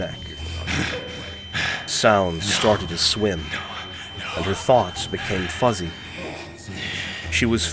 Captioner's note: scattered echoey laughs; through grunts of effort